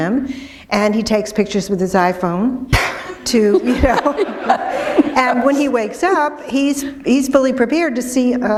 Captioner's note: laughter